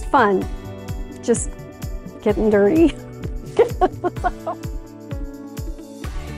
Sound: laughing

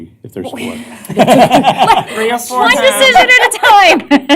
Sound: laughter

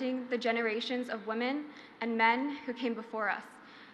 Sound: none

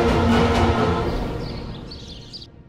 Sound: birds chirping

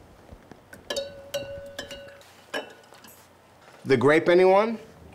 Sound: egg clanking to bottom

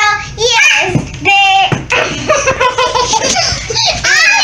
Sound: chuckles

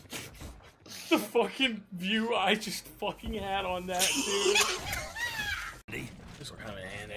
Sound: laughs

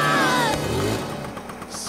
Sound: screams; engine revs

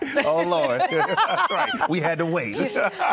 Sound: laughs

